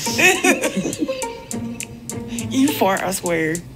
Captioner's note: laughs